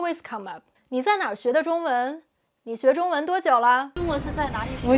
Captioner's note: speaking Chinese